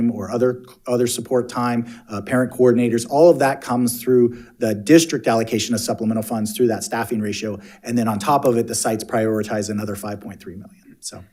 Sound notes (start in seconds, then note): none